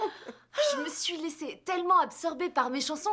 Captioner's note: laughs